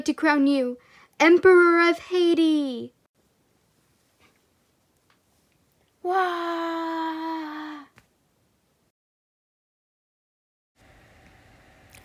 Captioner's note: crowd cheers